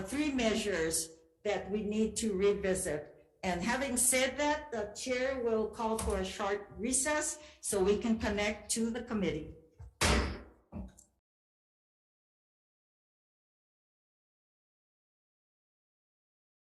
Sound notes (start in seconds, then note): 9.9 gavel banging